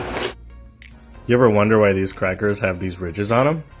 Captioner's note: male Voice